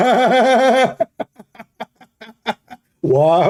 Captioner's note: Ketawa